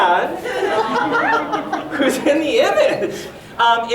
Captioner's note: audience giggling